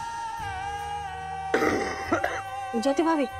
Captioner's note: coughs